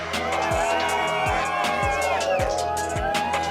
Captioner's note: cheering